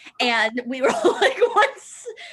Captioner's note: laughter